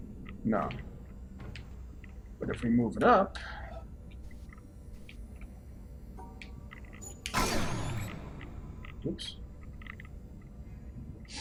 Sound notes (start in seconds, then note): 7.1 machine fails